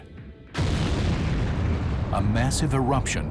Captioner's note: explosion